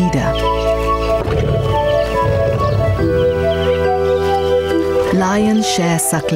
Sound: bright music; lion roaring

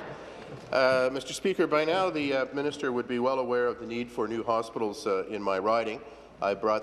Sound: applause

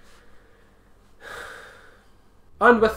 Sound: depressed sigh

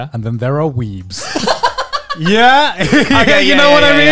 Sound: all chuckling

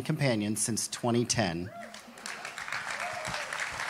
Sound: applauding

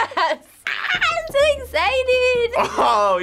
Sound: squealing; laughing

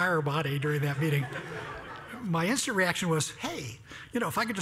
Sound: laugh

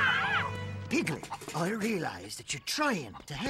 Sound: cluck cluck

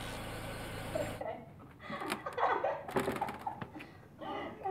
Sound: girls laughing

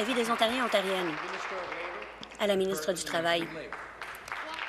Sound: applause

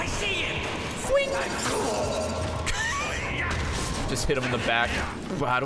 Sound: laughs

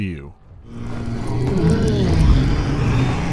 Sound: threatening wail

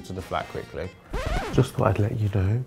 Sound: rewind noise

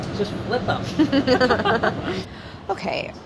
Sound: laughing

